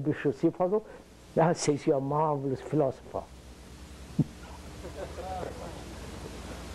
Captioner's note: laughter